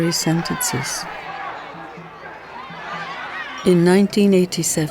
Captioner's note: crowd clamoring